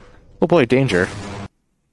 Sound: loud explosion x1

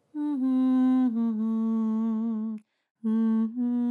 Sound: Criselda humming

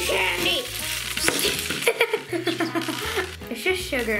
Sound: giggles

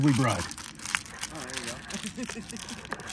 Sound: laughs

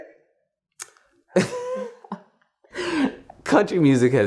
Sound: laughs

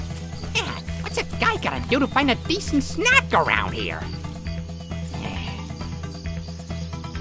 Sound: sigh; foliage rustling

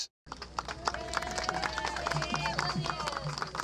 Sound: cheering

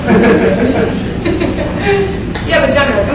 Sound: audience laughs; speaker laughs

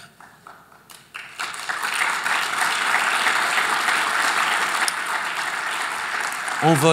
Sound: applause

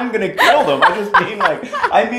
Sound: laughter

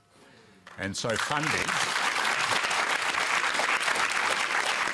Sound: applause

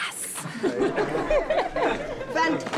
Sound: all laughing

